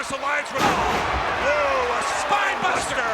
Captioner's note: commentators exclaim